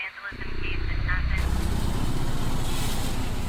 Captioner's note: radio chattering; air quavering; grill sizzling